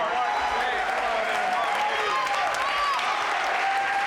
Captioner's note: audience cheering